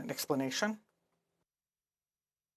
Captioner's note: speaking French